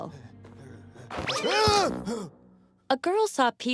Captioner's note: panting; shouts